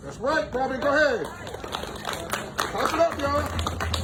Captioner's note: audience applauding